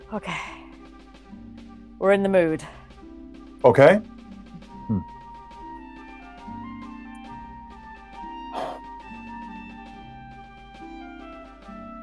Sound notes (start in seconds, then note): 4.2 instrumental music; 8.5 sighs